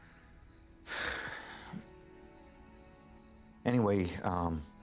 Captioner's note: sighs deeply